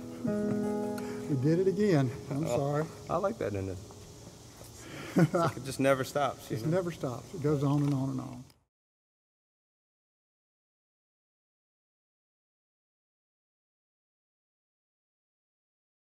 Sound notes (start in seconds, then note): 4.8 laughs